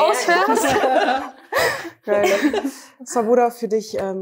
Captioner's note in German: Gelächter